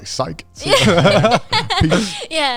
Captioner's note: everyone laughing